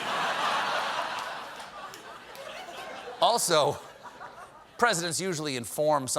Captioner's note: laughter